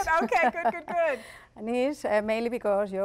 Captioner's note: laughter